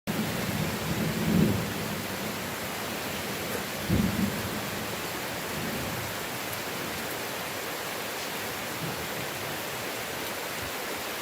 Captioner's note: rain